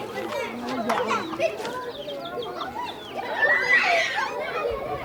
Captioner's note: children screeching and laughing